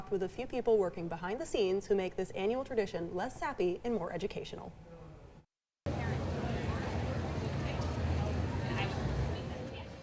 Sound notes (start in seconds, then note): 5.9 visitors chattering